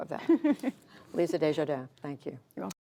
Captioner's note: laughter